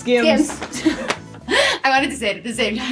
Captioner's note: laughter